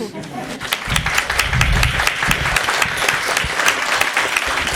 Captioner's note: chuckles; applause